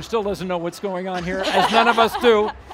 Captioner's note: laughing